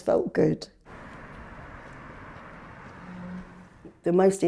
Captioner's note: cars whirring